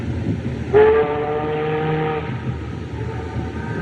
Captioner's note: ship's Horn Blows